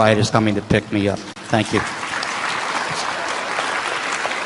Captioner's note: applause